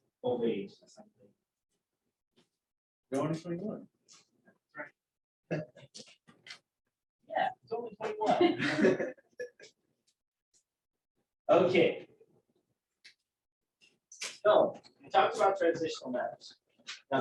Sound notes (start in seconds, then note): 8.0 laughter